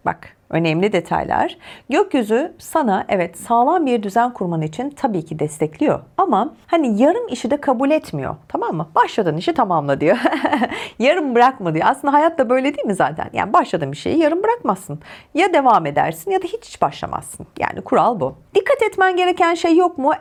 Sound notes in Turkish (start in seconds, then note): 10.1 kahkaha